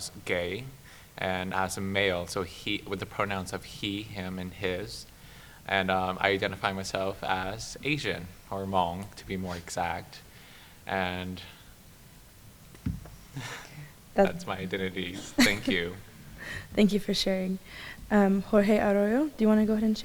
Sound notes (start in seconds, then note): 11.8 laughs